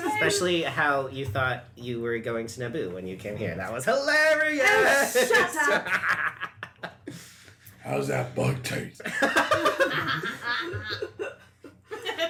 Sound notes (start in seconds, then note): 7.5 laughs; 9.0 the rest laugh